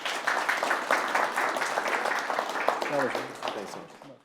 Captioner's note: attendees applauding